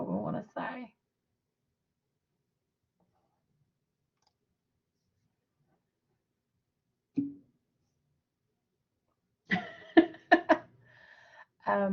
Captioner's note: laughter